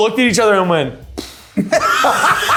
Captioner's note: sighing; laughing